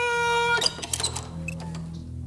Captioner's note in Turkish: Kapı açıldı